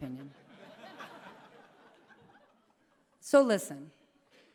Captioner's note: laughter